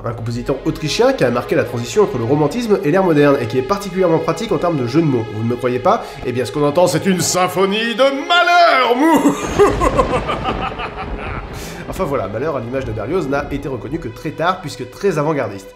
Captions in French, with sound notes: Un compositeur Autrichien, qui a marqué la transition entre le Romantisme et l'ère Moderne, et qui est particulièrement pratique en terme de jeux de mots. Vous ne me croyez pas ? Eh bien ce qu'on entend c'est une symphonie de MAHLER ! *bruit d'orage* Mouahahahahaha !!! Enfin voilà, Mahler, à l'image de Berlioz n'a été reconnu que très tard puisque très avant-gardiste.